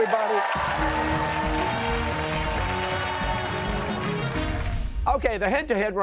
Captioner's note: cheers and applause